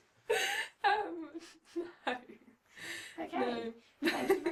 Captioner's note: laughing